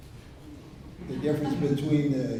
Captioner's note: laughter